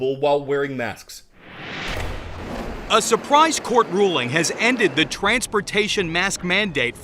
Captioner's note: voice-over